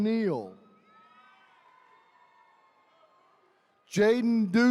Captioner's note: attendees cheering